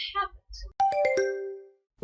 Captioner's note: question ding